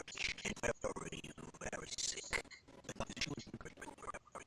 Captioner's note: audio skipping